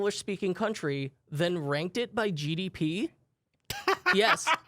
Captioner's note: laughs